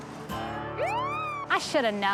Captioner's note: siren wails